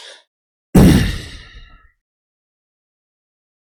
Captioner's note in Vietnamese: thở dài